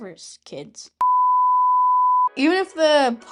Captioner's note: emergency Broadcast beep